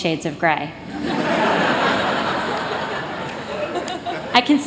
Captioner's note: laughter